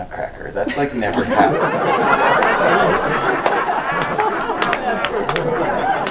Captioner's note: group laughs loudly